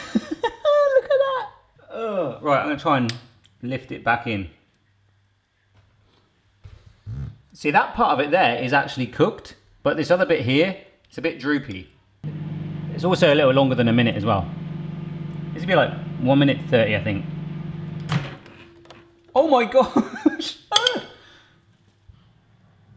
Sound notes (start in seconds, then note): 0.0 chuckling; 17.7 microwave door opening; 19.8 chuckling